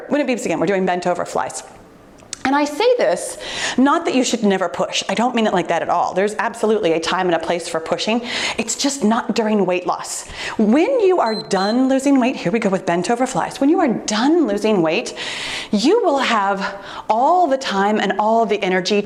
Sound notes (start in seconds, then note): 11.2 timer beeps